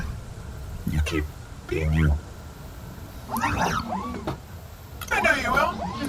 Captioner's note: whispering